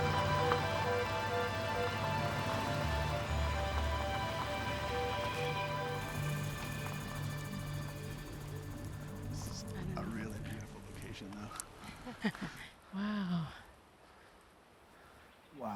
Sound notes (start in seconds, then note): 9.7 talking quietly; 11.6 chuckling